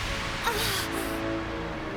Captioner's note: Matori gasps